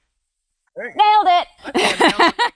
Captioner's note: laughs